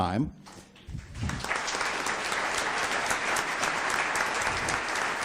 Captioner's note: audience applauds